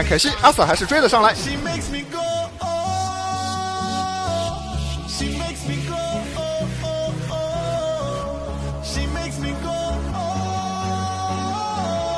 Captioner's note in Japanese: 擬音